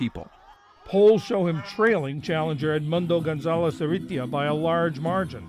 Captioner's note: voice-over